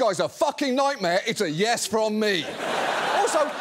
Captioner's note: audience laughs